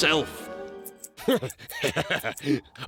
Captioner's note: laughs